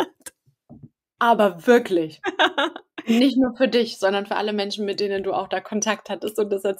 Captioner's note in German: lachen